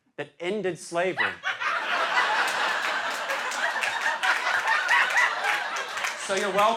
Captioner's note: laughter